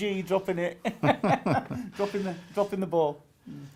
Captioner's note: laughing